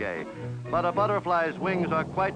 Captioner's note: airplane engine buzzes